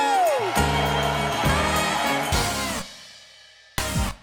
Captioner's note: cheering